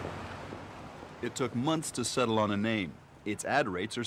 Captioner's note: street din